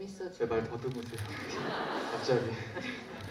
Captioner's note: laughs